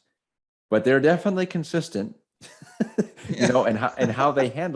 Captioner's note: laughs